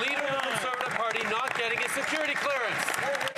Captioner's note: some Applause